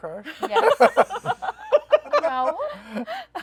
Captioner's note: laughter